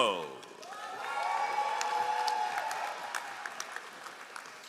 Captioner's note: all applauding